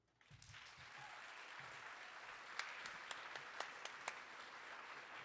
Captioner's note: audience applauding